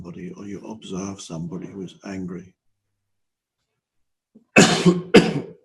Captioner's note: coughs